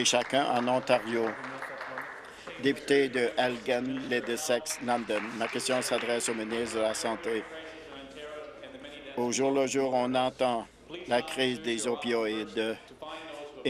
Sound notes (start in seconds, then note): 3.2 applause